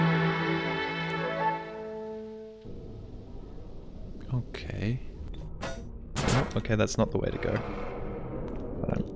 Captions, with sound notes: Okay *slap* nope, okay, that's not the way to go